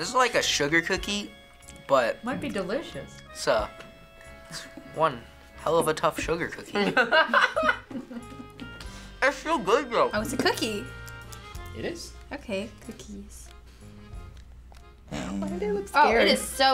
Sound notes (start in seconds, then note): 6.7 laughs